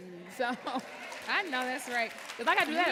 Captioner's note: audience applauding